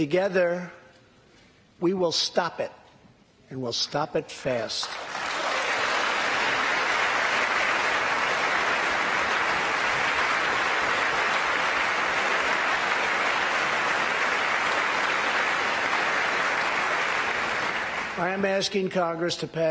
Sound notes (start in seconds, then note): 8.6 applause